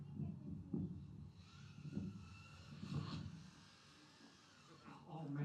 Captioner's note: car whirring